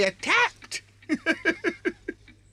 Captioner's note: laughs